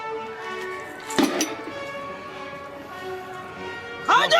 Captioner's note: metal clanking